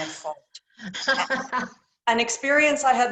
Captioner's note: laughter